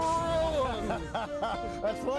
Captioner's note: laughing